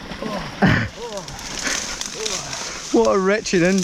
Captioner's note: groaning